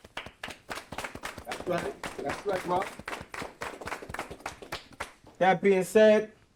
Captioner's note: group clapping